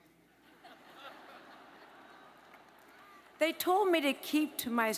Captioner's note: audience laughs